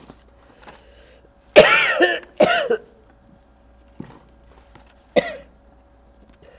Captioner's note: coughing